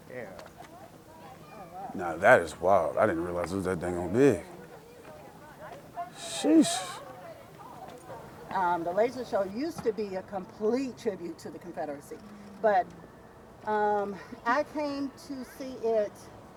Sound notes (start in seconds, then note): 7.2 group chattering indistinctly